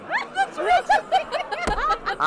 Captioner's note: laughs